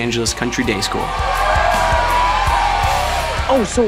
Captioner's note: crowd cheers